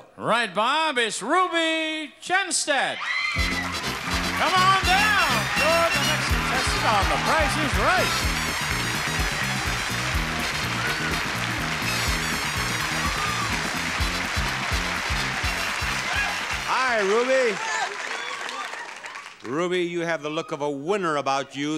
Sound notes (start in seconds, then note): 8.6 applause; 11.2 cheerful music